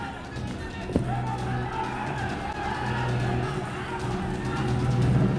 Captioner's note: non-english speech